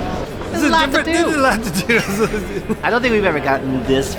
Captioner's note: laughs